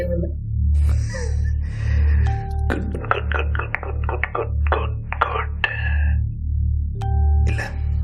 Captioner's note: laughs